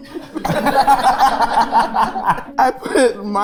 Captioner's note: group laughing